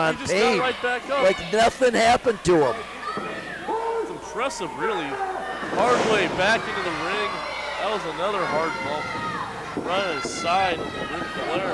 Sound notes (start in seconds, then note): 3.7 yells